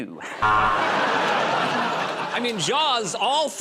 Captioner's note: buzzer